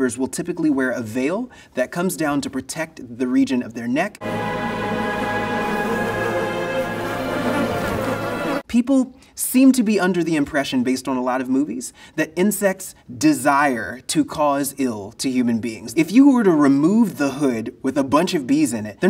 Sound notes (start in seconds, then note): 4.2 suspenseful music; 4.3 bees buzzing